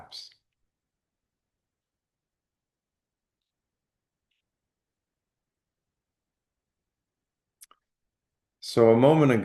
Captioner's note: pause